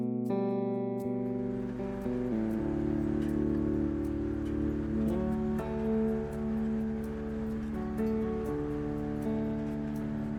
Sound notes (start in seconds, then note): 1.5 machine purring